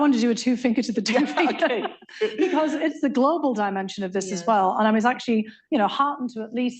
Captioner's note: laughter